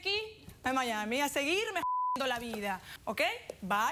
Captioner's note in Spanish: Bip